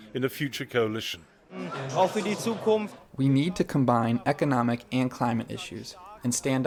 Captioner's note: through translator